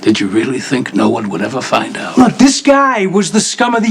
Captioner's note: none